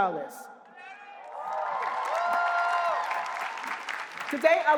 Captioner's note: applause